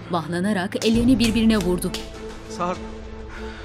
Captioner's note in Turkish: El çırpma sesi